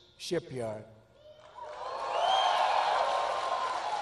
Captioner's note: applause